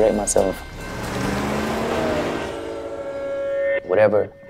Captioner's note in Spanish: motor de coche rugiendo